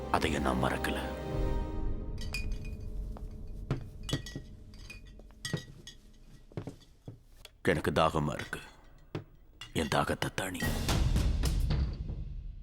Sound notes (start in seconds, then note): 3.4 wine Bottles Clinking